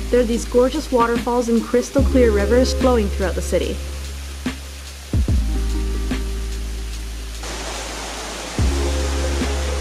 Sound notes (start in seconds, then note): 4.2 grooving music; 4.2 water flowing